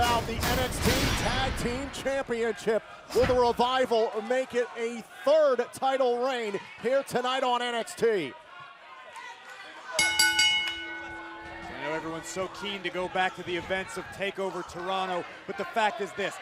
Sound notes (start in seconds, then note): 7.5 crowd cheering; 10.0 bell ringing